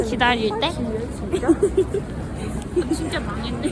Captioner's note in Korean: 악마의 웃음소리